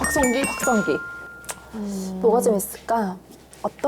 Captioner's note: correct-answer sound effect; thinking sound effect